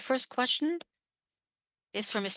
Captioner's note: speaking French